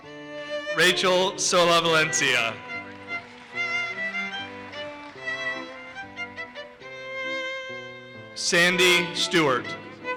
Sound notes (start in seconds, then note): 1.6 audience applauses